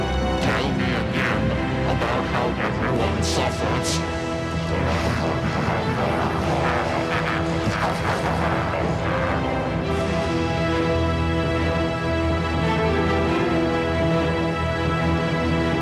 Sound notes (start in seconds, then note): 4.8 maniacal laughter